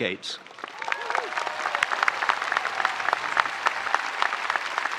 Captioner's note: spectators applauding